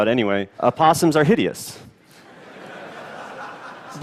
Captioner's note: laughter